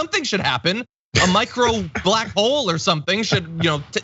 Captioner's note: laugh